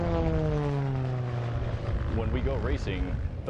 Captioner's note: plane wooshes